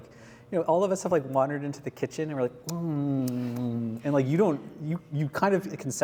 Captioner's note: snackish noises